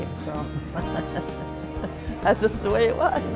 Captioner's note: laughs